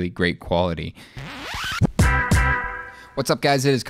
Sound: bouncy sound

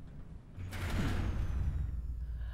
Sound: elevator stops

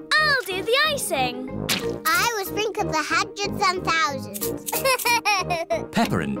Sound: laughs

